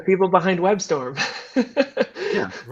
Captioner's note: laughter